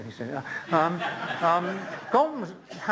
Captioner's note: laughter